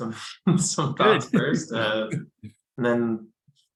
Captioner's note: laughs